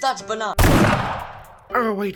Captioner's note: gunshot